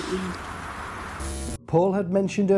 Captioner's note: static